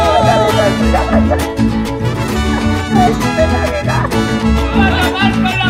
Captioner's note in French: Rires